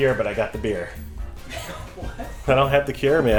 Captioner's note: laughs